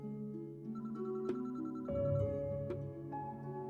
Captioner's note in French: le téléphone sonne; la musique maussade continue